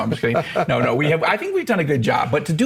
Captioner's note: laughs